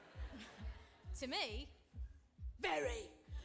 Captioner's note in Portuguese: audience laughing; laughs